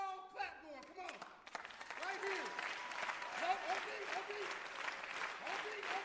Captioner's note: applause